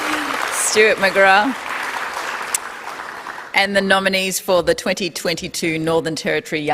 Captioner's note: applause